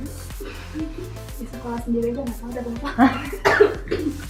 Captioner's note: laugh